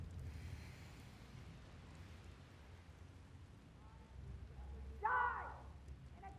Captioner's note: none